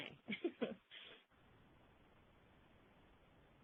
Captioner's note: laughs